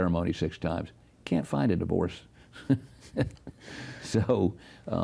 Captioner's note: laughs